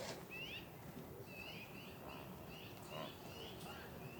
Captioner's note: birds chirping